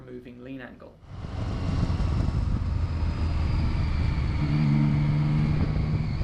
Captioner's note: engine roaring, wind rushing